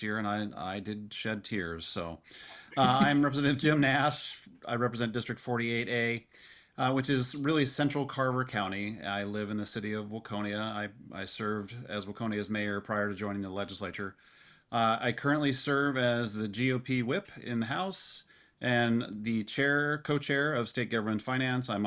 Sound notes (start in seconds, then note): 2.7 participant laughs